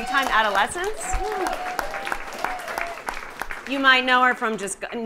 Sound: audience applauding

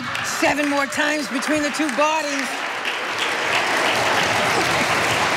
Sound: audience laughing

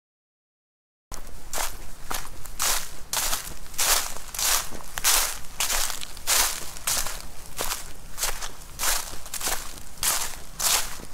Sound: sound of walking

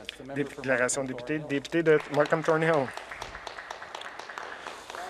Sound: speaking Alternate Language

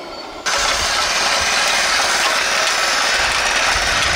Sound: rock crusher rattling

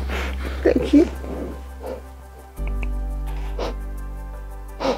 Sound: sniffling

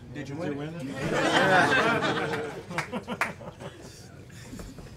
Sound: audience chuckles

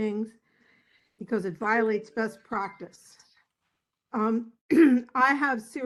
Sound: cough

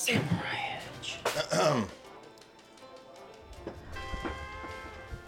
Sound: throat clearing; gentle country music

